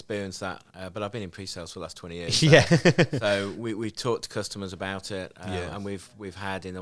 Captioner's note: laughing